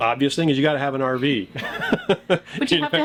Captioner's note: laughs